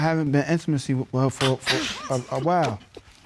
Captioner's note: laughs